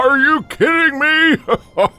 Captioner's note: Santa chuckling